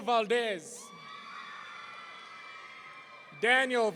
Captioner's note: audience cheering